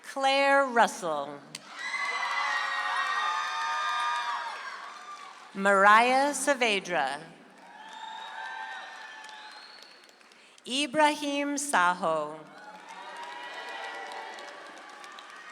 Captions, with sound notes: Claire Russell. (audience applauds) Mariah Saavedra. (audience applauds) Ibrahim Saho. (audience applauds)